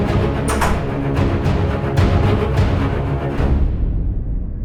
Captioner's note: door closes